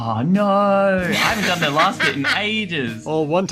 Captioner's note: laughter